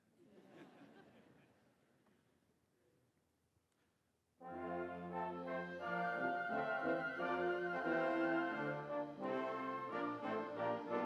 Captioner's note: laughter�